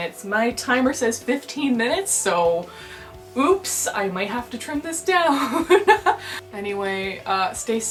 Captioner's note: laughter